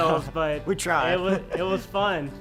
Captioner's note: chuckling